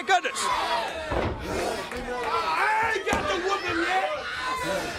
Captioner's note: crowd chatter